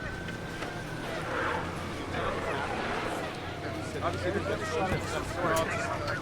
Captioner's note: police radio chatter